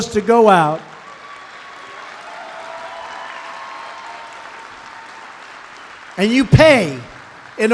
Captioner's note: applause